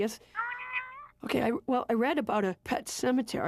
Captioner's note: muffled voice from phone